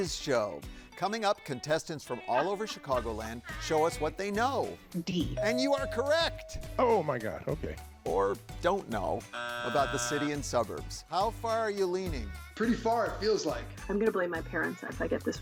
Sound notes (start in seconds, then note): 2.0 contestant laughing; 9.3 buzzer drones